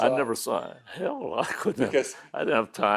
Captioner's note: laughing